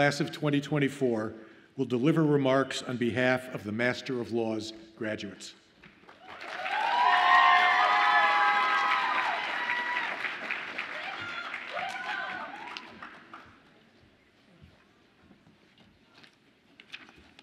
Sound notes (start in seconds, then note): 6.1 audience applauds and cheers